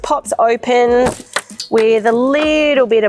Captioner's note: metal clanking